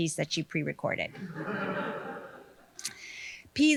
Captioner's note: audience laughing